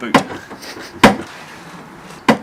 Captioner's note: clunking